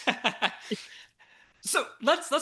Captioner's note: laughs